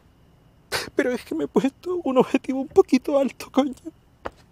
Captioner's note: sobs